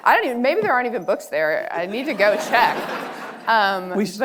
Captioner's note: audience laughing